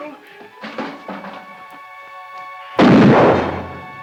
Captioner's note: bucket rattles; gun fires